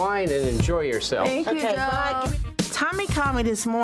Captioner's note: overlapping chattering